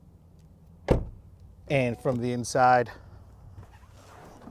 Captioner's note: door thuds lightly